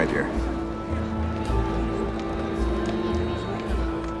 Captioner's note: indistinct chatter